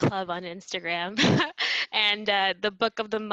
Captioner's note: chuckles